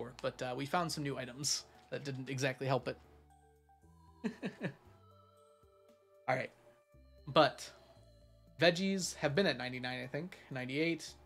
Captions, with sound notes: but we found some new items that didn't exactly help. (laughs) All right. But Veggies have been at 99, I think. 98.